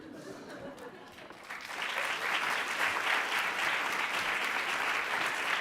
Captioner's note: audience applauds